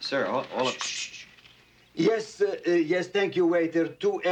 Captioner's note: shushes